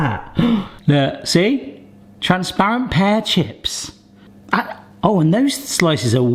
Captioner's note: gasps